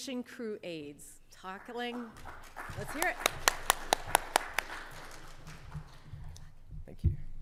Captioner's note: audience clapping